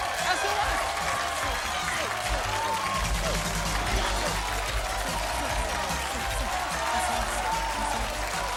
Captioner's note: applause